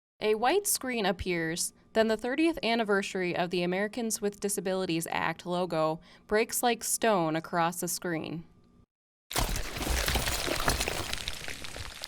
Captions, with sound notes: >> A white screen appears, then the 30th Anniversary of the Americans with Disabilities Act logo breaks like stone across the screen [stone cracking].